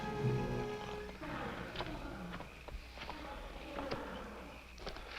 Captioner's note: elephant trumpeting